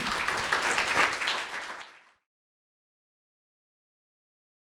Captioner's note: audience clapping